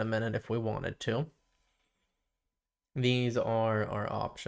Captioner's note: silence